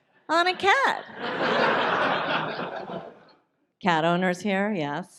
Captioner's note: audience laughs